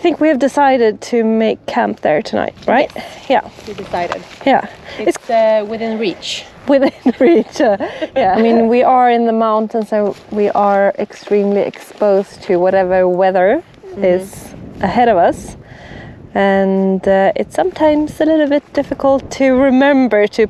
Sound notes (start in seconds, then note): 6.6 laughs